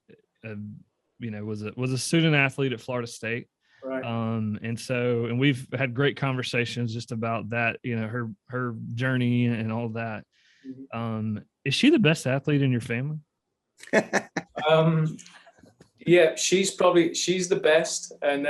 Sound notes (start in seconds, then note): 13.9 laughter